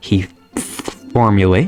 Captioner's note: spits